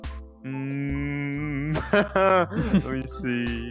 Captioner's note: laughs